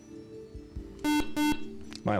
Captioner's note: beep